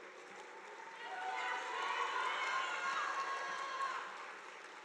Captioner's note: audience applauding